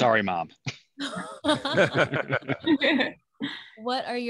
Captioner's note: all laugh